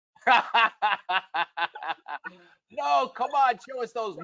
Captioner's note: laughing